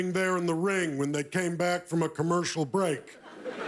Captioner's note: laughter